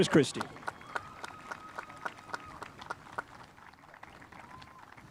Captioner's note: spectators applauding